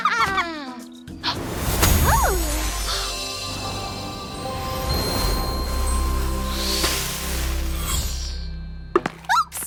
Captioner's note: magical whoosh